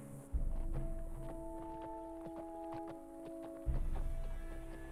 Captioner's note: horse hooves clomping